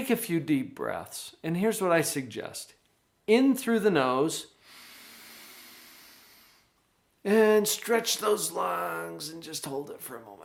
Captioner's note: inhales